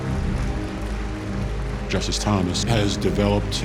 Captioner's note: audience applauding